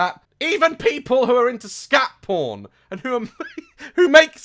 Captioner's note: laughs